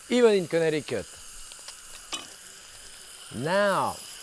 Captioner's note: pressure cooking hissing